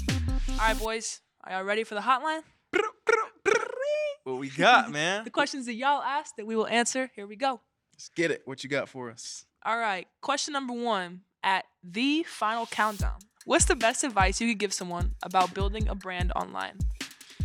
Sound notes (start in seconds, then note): 2.9 both mimicking